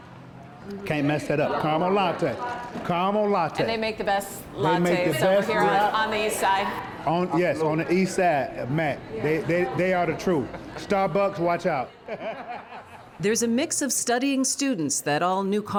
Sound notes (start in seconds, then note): 11.8 laughter